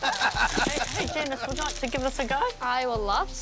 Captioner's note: laughter